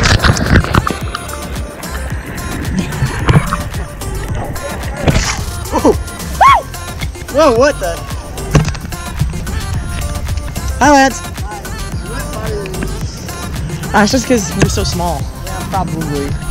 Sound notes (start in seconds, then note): 6.4 screams